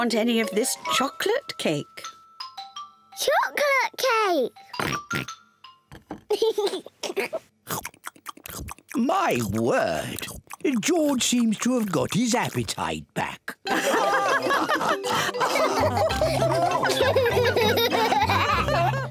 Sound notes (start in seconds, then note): 4.8 oinks; 6.3 giggles; 13.7 all laughing; 16.9 laughs